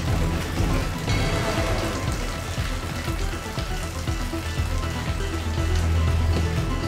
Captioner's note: thuds; suspenseful music continues; water pattering